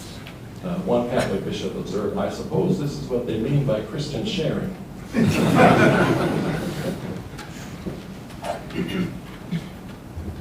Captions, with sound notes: One Catholic Bishop observed, "I suppose this is what they mean by Christian sharing." (audience laughing)